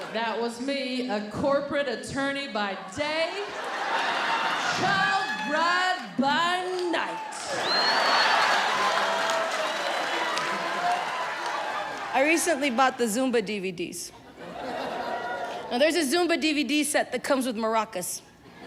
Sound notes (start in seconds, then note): 7.8 audience laughing and clapping